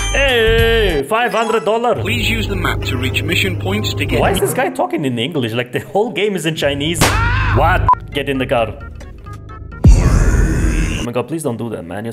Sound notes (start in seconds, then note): 9.8 creppy sound again